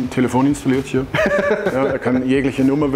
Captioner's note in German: Gelächter